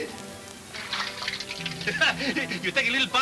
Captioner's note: chuckling